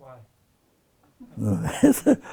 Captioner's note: laughs